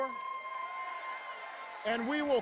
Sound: audience member hoots loudly

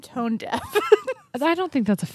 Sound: chuckles

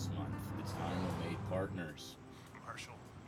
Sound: car whooshing

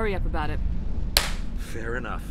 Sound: claps

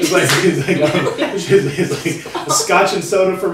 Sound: everyone laughing

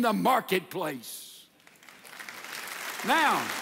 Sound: audience applauds

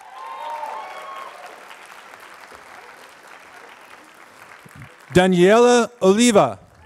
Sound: applause

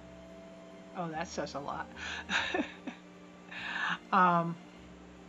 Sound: laugh

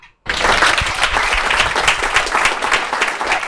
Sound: applause

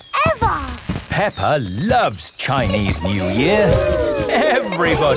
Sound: exclamations

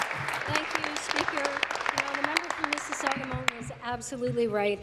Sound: applause

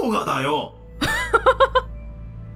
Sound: chuckles

